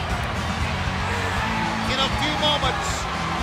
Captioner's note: crowd chatter